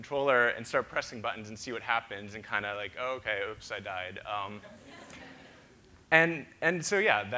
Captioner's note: audience laughter